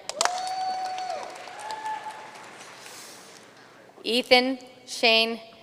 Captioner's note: audience cheering and applauding